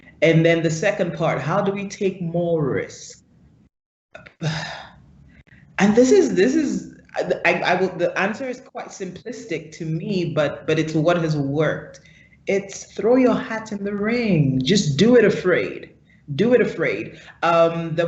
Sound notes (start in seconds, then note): 4.2 sighs; 7.3 stutters